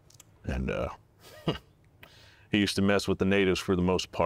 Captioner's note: laughs